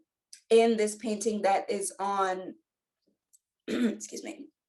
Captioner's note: clears throat